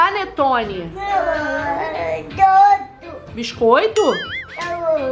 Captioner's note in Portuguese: balbuciando